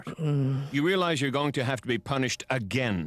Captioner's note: groans